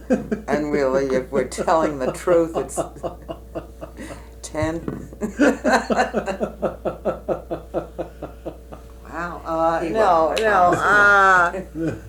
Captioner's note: laughter